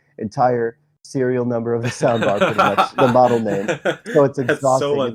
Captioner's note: laughs